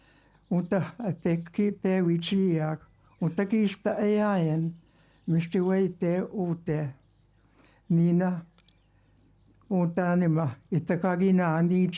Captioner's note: speaking indigenous language